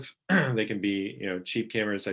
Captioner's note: clearing throat